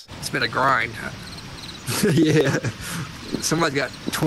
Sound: crickets chirping; chuckles

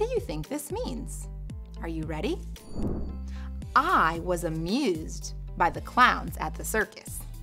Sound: air whooshing

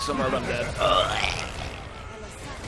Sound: dying noise

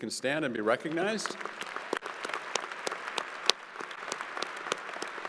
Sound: crowd applauding

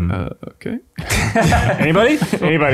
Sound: chuckles

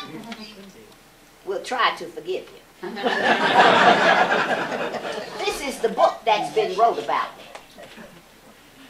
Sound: laughter

